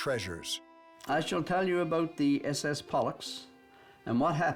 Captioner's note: reading letter